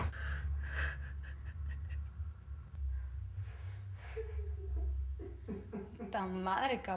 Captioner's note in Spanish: Sollozar